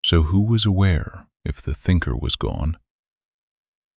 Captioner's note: calm and unhurried